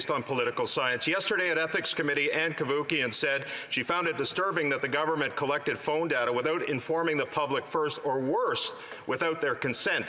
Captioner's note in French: voix de l'interprète